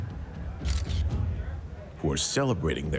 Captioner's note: camera flashing